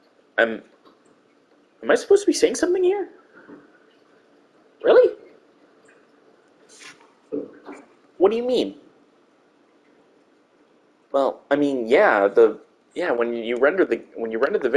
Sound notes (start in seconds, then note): 4.6 high pitched voice; 7.6 regular voice